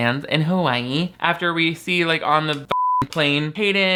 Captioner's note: beep